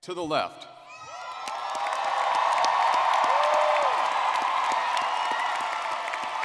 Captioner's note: audience cheering and clapping